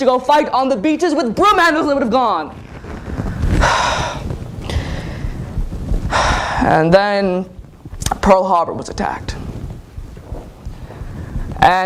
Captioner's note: sigh